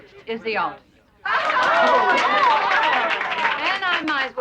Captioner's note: cheering